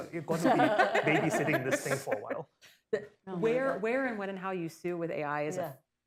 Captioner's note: laughter